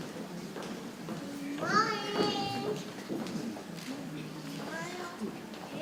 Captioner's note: people chattering softly